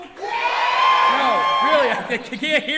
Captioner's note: audience cheering